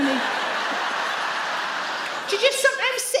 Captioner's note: audience laugh